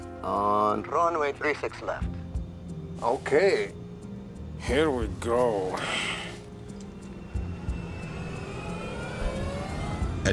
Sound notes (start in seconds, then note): 5.7 sighs; 8.0 engine humming